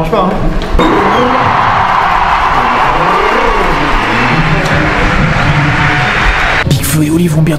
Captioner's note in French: Bruit de foule impatiente de voir